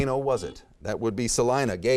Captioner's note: beeping